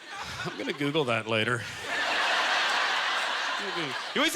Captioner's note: audience laughter